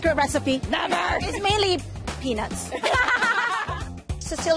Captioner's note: laughs